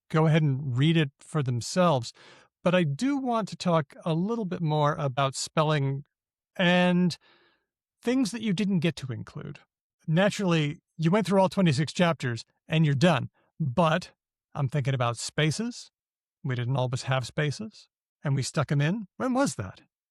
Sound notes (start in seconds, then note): none